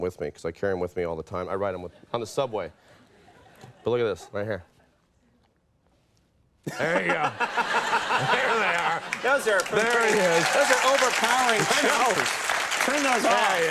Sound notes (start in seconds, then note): 9.0 Conan and audience laughs and applauds; 11.0 applause